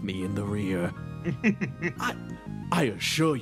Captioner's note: chuckle